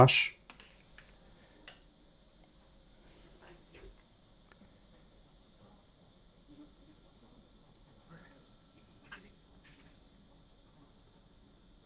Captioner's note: silence